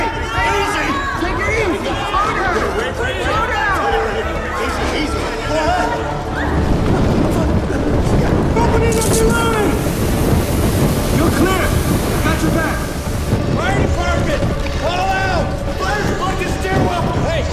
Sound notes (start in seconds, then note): 3.8 indistinct chatter; 8.9 water hissing